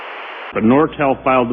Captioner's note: static